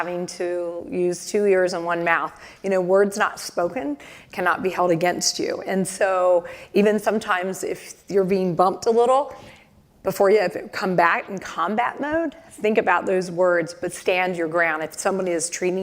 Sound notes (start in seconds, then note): none